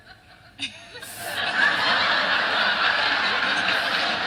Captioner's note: laughter